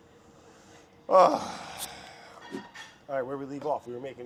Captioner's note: groaning